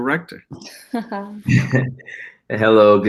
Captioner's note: laughs